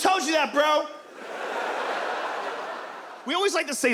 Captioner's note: audience laughs